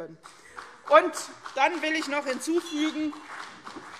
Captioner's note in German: Beifall CDU